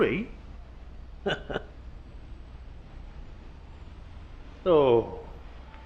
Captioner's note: Terry Slade chuckling